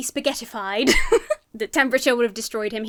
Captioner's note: giggles